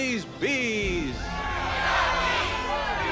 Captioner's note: all cheering